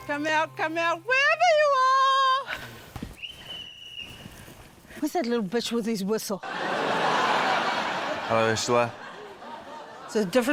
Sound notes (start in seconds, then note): 3.1 whistle trills